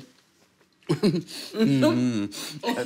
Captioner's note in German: Lachen